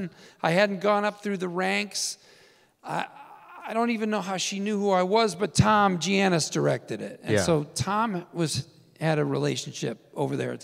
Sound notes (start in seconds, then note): none